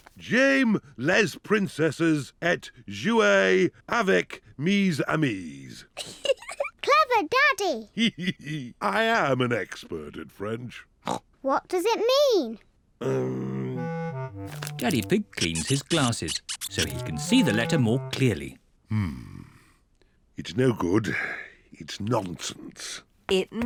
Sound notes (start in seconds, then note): 6.0 giggles; 8.6 giggles; 11.4 snorts